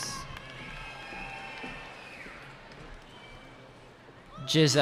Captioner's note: cheering